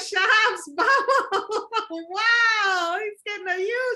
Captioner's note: laughs